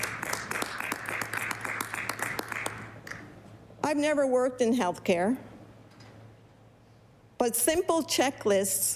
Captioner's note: applause